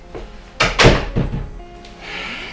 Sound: door closes

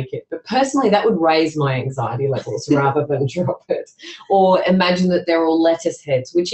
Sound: laughs

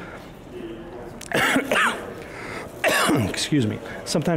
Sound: coughing

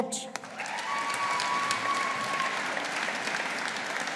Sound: audience applauding

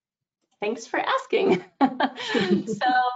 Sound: laughs

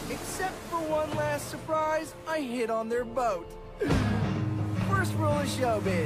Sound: deep breath

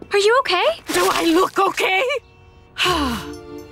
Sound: sighing

